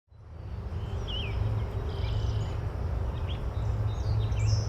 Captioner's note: birds twittering